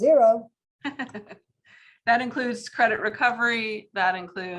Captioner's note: laughs